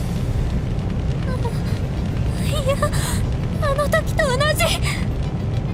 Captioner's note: gasp